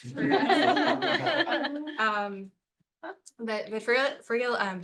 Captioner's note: laughter